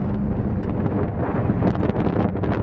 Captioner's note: wind noise